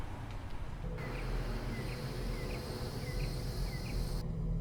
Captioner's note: chirping